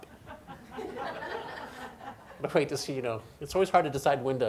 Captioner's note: audience laughs